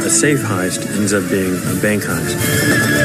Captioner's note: whinnying